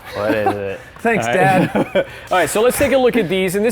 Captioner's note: both chuckling